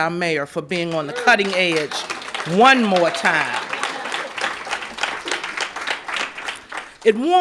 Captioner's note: applause